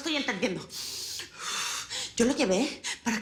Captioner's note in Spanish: Sonido al aspirar y exhalar